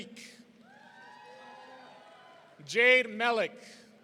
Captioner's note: audience cheering